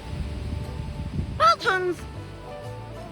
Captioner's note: silly voice